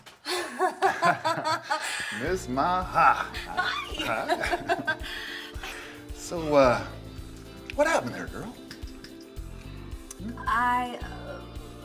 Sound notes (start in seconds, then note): 0.2 both laughing; 3.4 Maha laughing